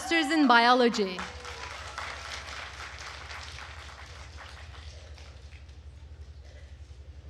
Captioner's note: attendees cheering and applauding